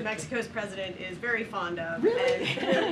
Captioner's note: laughter